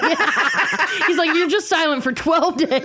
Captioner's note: laughing